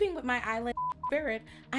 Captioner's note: beep